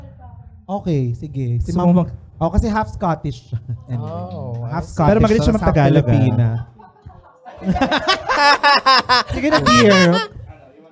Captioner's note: laughter